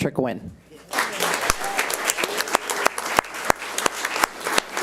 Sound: audience applauds

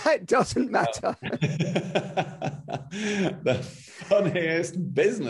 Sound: both laughing

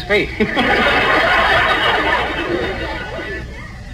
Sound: audience laughs

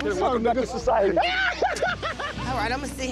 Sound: laughing

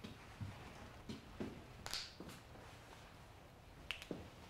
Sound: knuckles Cracking

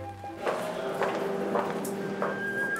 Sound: indistinct chatter

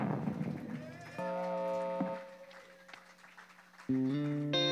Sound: applause

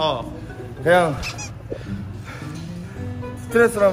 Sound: he hardly breathe

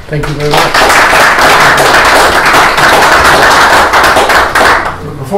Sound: applause

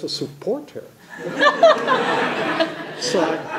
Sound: laughter

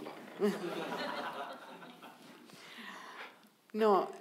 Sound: audience laughing

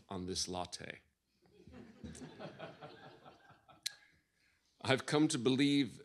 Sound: laughter

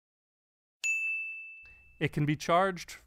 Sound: bell rings

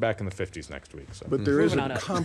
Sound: laughing

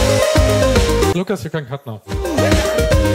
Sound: everyone: laughing

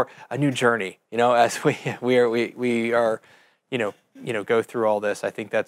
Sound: chuckling

